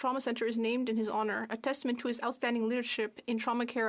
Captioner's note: speaking French